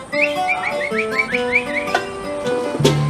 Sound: singer whistling

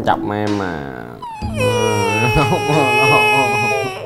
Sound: she bursts out crying

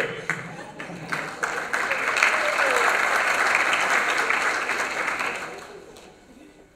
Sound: applause

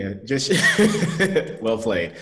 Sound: laughs

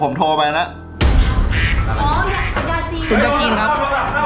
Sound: phone rings

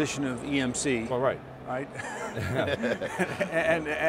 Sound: all laugh

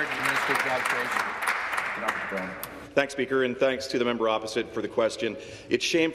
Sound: applause

